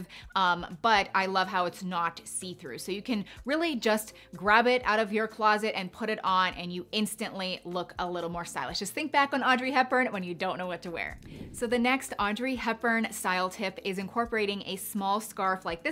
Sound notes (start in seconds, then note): 11.1 wind whooshing